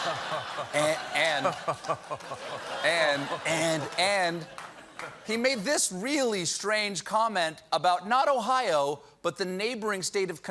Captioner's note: laughter